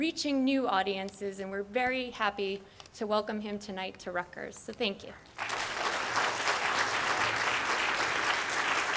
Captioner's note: audience clapping